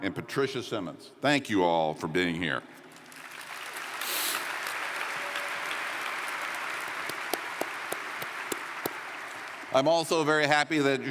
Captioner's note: applause